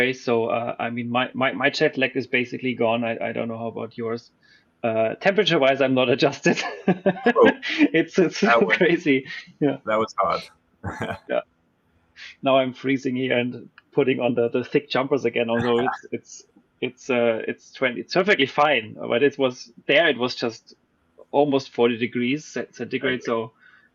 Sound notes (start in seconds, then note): 6.7 laughs